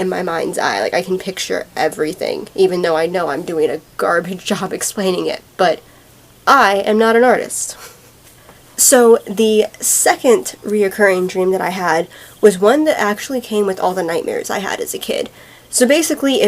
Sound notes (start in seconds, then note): 7.8 chuckle